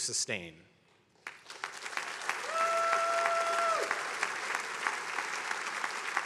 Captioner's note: attendees applauding